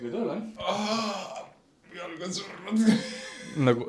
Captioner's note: grunts